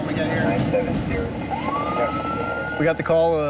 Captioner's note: sirens ringing